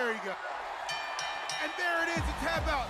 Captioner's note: bell ringing